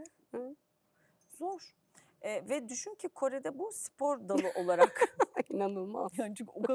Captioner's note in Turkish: kahkaha